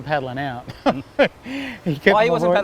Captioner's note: laughs